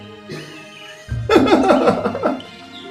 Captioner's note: laughing